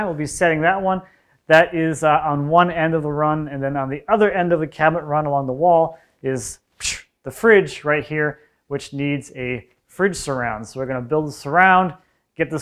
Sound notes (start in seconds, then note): none